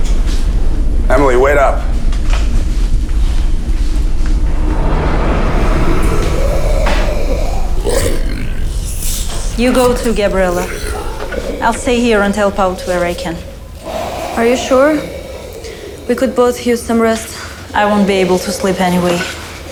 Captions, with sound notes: - Just get it done quickly. Emily, wait up. (dramatic music) (zombie growling) - You go too, Gabriela. I'll stay here and help out where I can. - Are you sure? We could both use some rest.